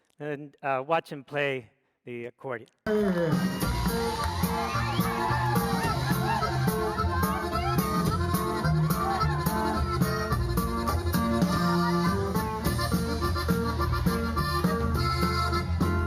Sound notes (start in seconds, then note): 0.0 speaks foreign language; 3.3 norteño music; 3.5 crowd cheering